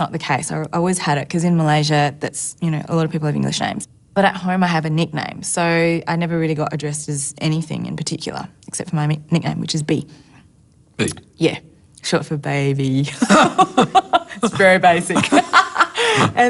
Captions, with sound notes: I always had it, 'cause in Malaysia a lot of people have English names. But at home I have a nickname, so I never really got addressed as anything in particular, except for my nickname, which is B. B? Yeah. Short for Ba-by. (BOTH LAUGH) It's very basic. (LAUGHS)